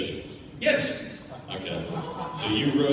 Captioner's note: audience laughs